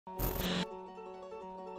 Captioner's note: static; piano playing